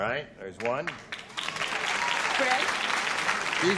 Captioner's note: applause